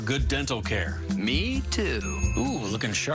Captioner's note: ding